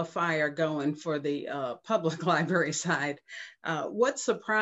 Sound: chuckles

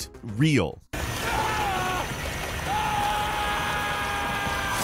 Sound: painful yelling

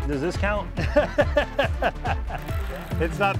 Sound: laughs

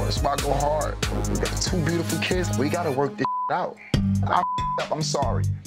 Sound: beep

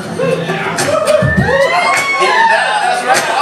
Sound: cheers

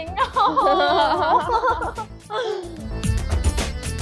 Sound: laughing

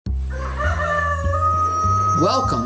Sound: rooster crowing

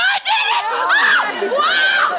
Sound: screams

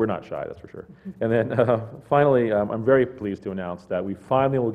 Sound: laugh

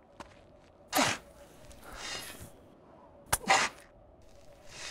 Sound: shovel crunches

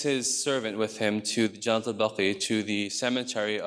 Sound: speaks in foreign language

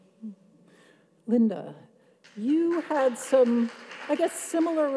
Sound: audience applauds

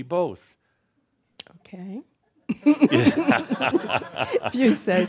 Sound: they laugh

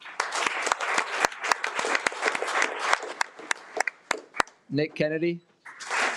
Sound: audience clapping

